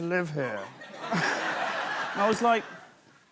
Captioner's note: laughter; normal voice